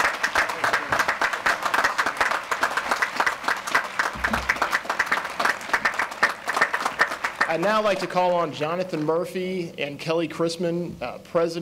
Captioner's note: applause